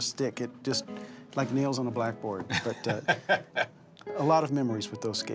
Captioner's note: chuckles